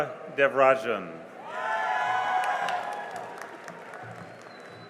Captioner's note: cheering and applause